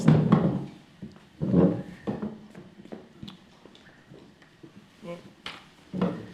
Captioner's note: chairs scraping